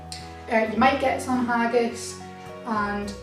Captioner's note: none